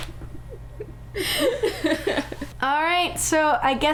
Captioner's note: laughter